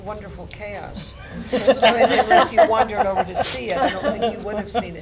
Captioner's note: laughter